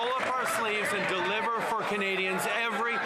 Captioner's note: some Applause